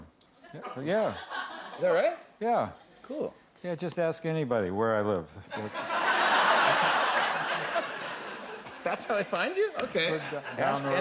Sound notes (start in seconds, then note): 5.5 laughter